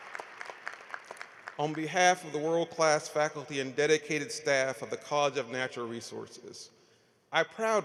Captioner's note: applause